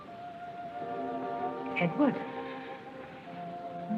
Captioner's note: talking softly